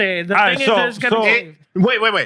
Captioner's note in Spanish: Hablando en idioma extranjero